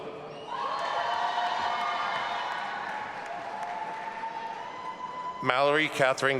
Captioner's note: audience applauding and cheering